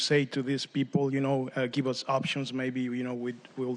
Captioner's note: speaking spanish